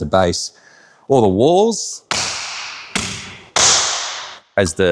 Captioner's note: hand pounds